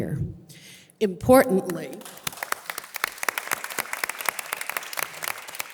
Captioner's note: audience applause